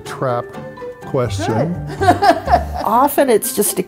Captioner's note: laugh